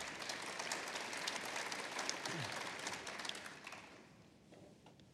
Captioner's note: applause